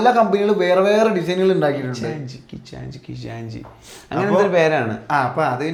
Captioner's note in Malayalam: ചീറ്റുന്നു